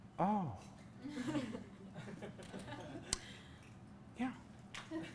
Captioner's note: class laughs